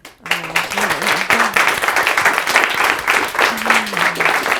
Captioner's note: audience clapping